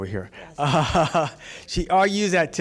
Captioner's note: chuckle